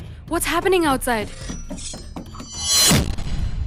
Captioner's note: glass breaking